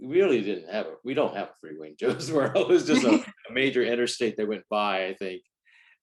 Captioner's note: laughs